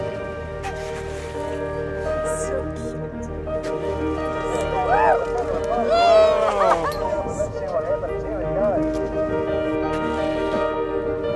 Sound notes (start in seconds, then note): 5.7 cheering